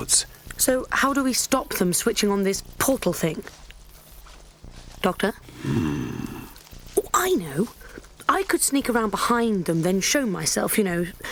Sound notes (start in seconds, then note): 5.5 grunts